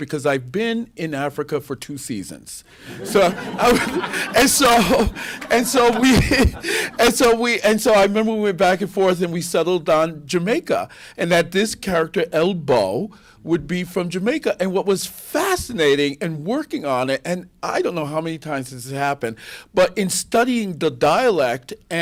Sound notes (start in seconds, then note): 2.8 laughter